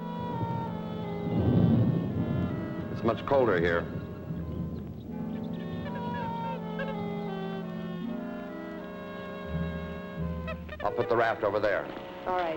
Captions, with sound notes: It's much colder here. (birds chirping) (Joe chattering) I'll put the raft over there.